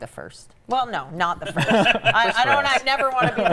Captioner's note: laughs